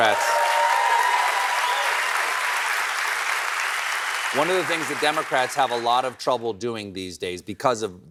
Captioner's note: applause